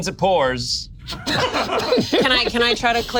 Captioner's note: group laughs